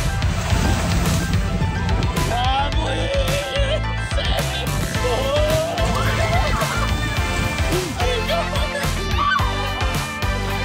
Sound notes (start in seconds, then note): 0.4 engine whirring; 5.0 people screaming